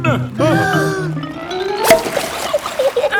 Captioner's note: breathing in